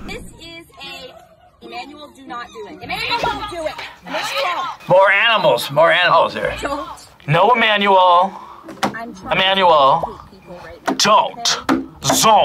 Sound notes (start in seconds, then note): 4.1 whispers